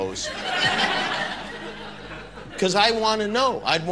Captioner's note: audience laughter